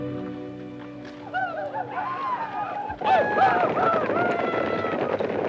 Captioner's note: Apaches howl